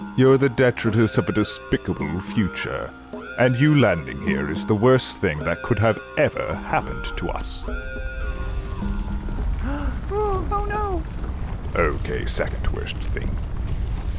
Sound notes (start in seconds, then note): 6.8 rumbling sound; 9.5 gasps; 13.9 rumbling intensifies